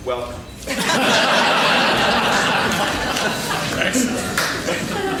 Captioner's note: laughing